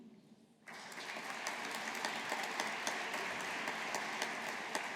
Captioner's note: audience applauding